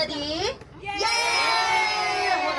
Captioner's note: everyone cheers!